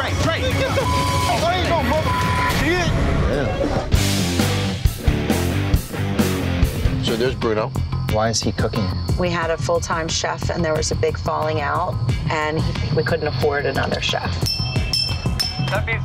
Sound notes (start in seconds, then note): 0.5 beeping; 1.4 shouting; 4.1 upbeat rock music; 14.4 dinging